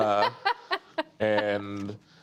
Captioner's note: laughter